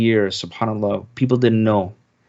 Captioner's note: speaking in Arabic